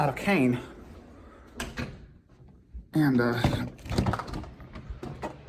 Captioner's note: door closes; door opens